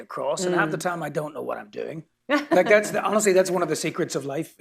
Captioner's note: laughter